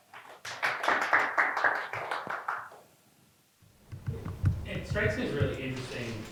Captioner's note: students applauding